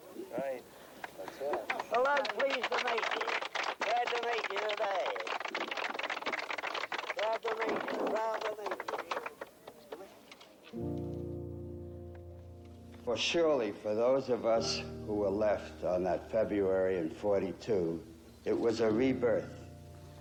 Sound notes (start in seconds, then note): 0.2 applause; 5.3 applause